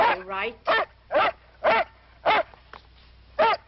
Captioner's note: dog barking